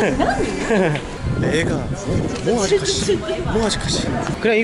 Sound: all foreigners laugh at body

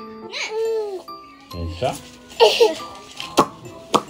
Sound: baby's crying; makes the sounds that the baby likes as she cries peevishly

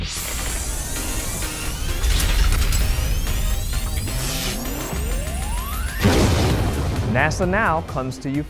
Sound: sound Effects

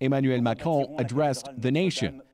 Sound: speaking french

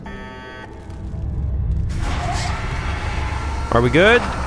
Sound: beep; MORE rumbling to suctioning

